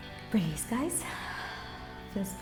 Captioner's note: exhales